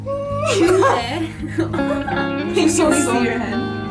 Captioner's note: gasps